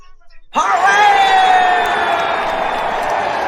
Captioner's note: all cheering